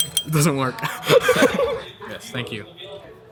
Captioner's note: chuckles